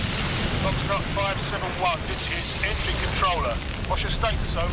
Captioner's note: man over radio